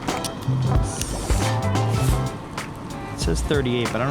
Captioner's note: camera clicking and whirring